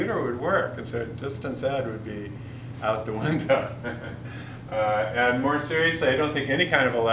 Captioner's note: chuckles